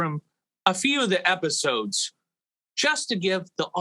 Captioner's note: none